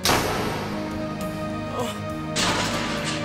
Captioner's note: grunts softly